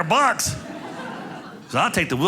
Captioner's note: audience laughing